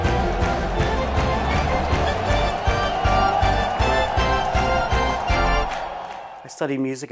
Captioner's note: lively organ music continues; crowd continues clapping